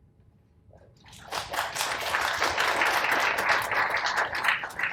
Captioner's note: audience applauds